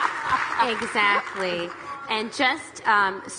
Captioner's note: audience applauding